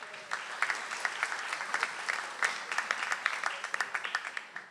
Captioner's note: audience applauds